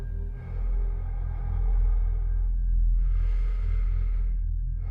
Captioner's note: breath huffing